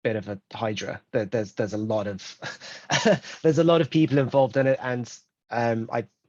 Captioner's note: laughs